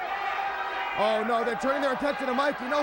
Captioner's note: crowd chatter